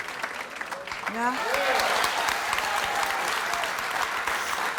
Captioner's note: audience cheering